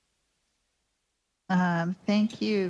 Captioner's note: speaking French